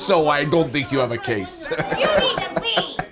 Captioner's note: chuckles